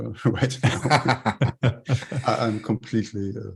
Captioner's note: chuckles